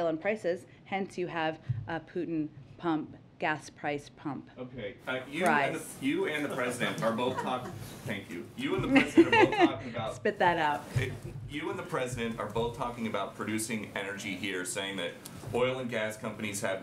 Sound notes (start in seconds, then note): 6.8 laughs; 6.8 laughter